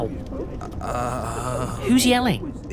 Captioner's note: stutters